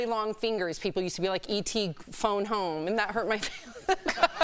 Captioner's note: laughter